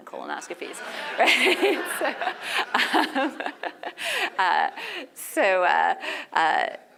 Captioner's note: laugh